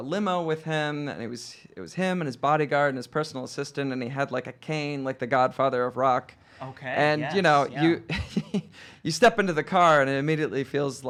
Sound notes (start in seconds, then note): 7.3 laughing